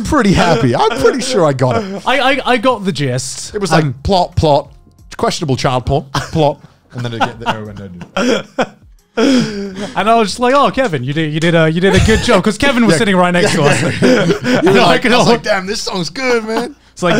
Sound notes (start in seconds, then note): 7.0 laughing